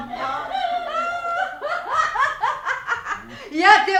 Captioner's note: laughs